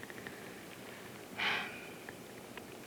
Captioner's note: gasp